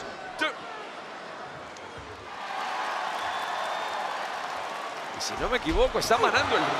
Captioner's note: applause